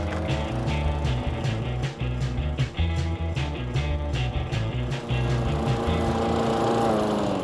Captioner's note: lawnmower sound